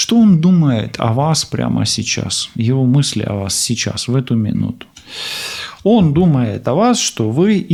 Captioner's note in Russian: тяжело вздыхает